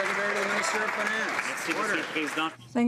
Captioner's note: some Applause